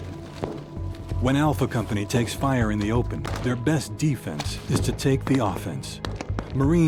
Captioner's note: voiceover